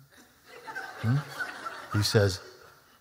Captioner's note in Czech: Smích